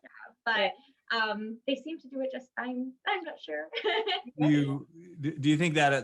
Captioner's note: laughs